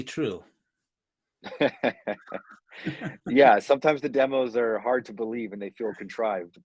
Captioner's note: laughs